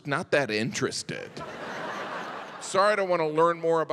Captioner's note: audience laughs